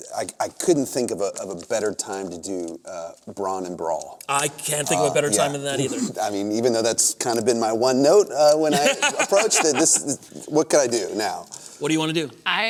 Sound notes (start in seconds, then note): 8.7 laughter